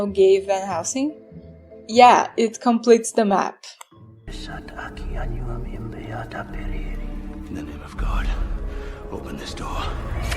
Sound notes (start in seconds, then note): 3.9 reading in latin